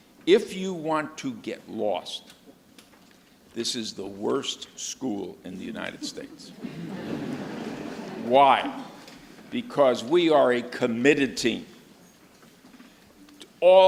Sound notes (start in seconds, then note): 5.9 audience laughs